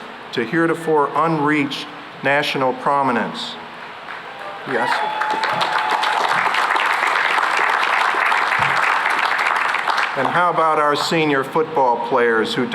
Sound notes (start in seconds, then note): 4.0 cheering and applause